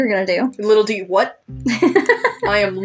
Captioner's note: laugh